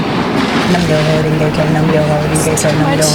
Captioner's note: chanting